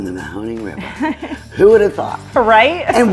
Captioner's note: laughing